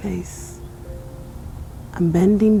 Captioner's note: wind blowing